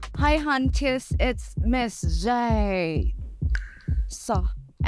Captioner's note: tongue pop